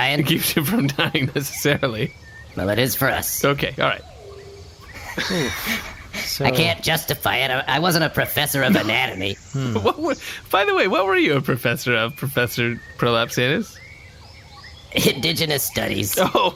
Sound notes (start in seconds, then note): 0.1 laughs; 4.8 laughs